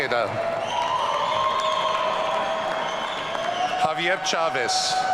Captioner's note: audience cheering